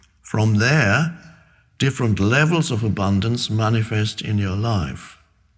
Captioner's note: none